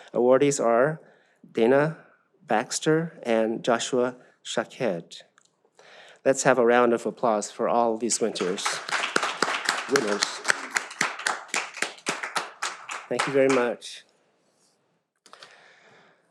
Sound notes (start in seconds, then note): 8.2 audience applauds